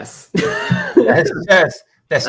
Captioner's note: laughs